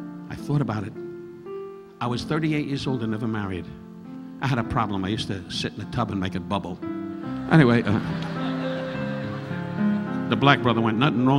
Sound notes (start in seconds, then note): 7.6 audience laughing